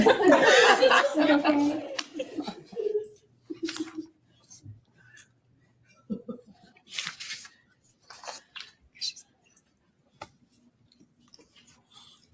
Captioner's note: laughter